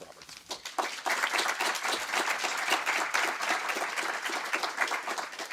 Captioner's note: audience applauds